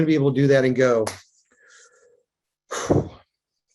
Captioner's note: hands slaps; sighs